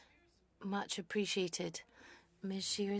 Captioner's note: speaking French